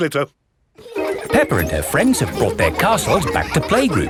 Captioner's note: children laughing